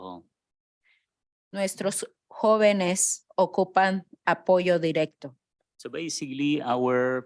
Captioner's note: speaking in Spanish